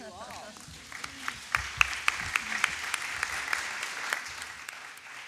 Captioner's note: audience applauds